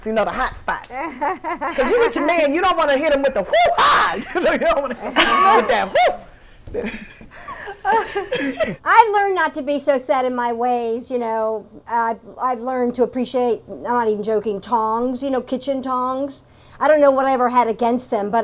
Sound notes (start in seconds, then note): 3.5 whooping loudly